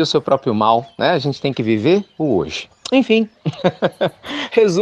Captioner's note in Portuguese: Risos